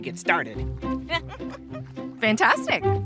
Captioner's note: laughter